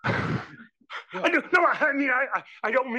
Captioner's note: laugh